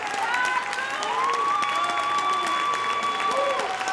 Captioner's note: audience shouting